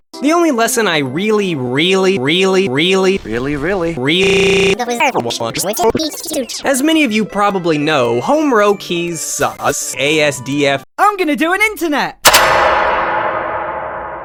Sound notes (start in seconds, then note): 4.2 seizure Noises